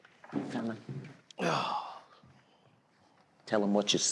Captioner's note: sighs